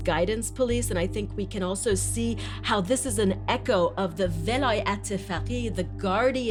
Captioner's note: non-English language spoken